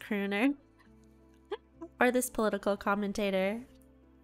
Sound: hysteria increases with a giggle

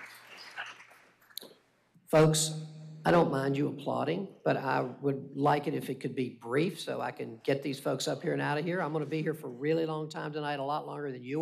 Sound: applause

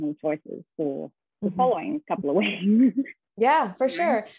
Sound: chuckles

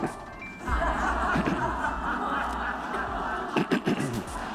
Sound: audience laughs

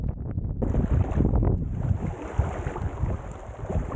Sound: water lapping

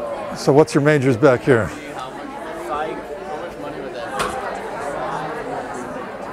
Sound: chatter

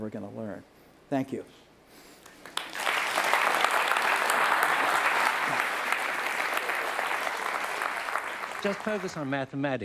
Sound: applause

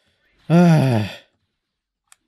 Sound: relived sigh

